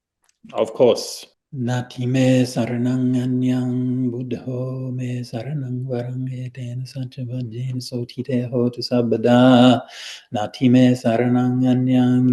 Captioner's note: chanting in Pali